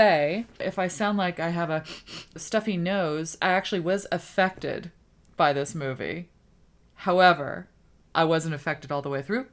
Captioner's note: sniffs